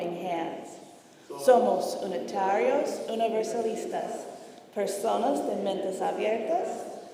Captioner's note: congregation speaking in foreign language